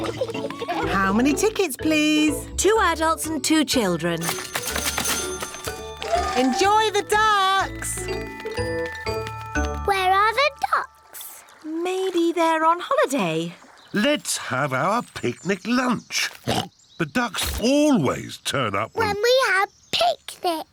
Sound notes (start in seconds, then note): 16.4 oinks